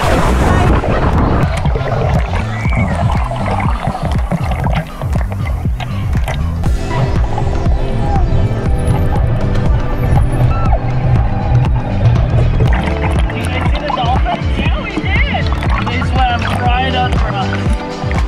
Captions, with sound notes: (water splashes) (upbeat music) (dolphin noise) - Did you guys see the dolphins? - Yeah, we did. - They swam right under us.